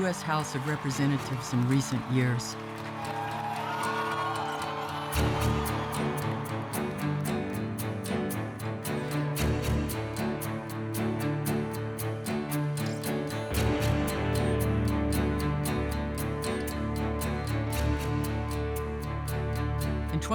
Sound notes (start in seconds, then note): 3.8 crowd cheers and applauds